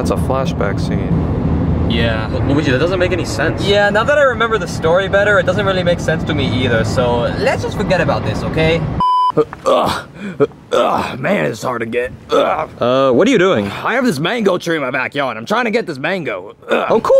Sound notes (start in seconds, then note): 8.9 beeps; 10.7 Yoshi grunts; 12.2 grunts; 16.6 grunts